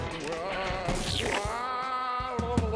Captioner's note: ghostly moaning